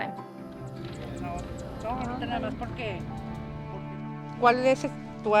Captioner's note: people speaking Spanish